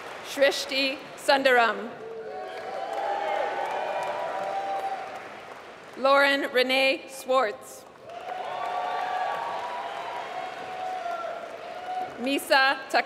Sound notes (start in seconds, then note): 0.0 applause; 7.8 applause